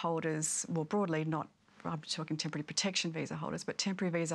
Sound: stammers

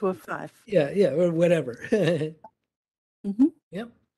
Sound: laughs

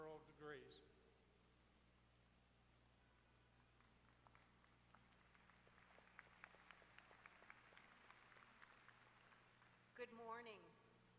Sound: applause

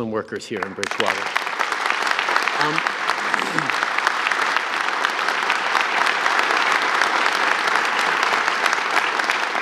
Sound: applause

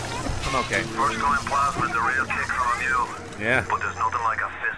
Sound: radio speaks

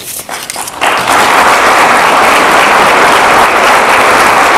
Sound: audience applauds

